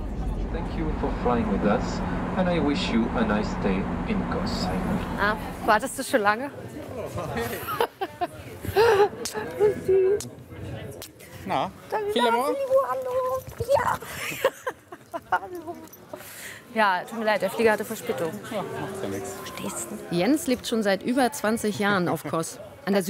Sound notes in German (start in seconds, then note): 8.7 lacht